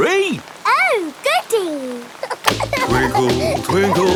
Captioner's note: giggling